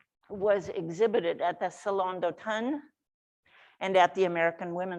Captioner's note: speaks foreign language